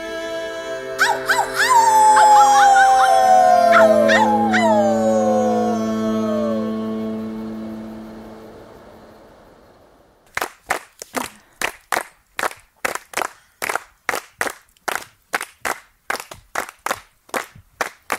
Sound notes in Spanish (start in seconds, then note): 0.6 aúllidos; 5.6 fuego, grillos, risas y palmas